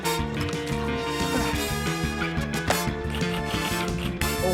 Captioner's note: grunts